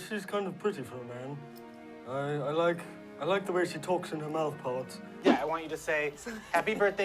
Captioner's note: laughing